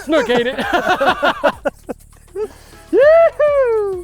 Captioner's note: laughing